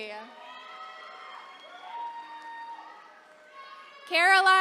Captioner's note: attendees cheering